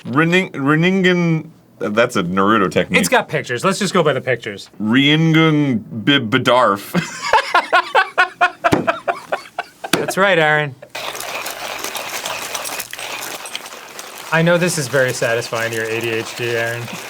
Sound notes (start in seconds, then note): 8.3 cackling